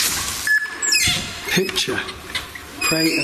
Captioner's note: machine beeps